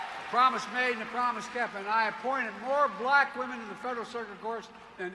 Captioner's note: applause